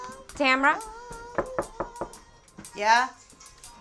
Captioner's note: knocking